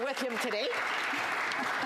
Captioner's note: applause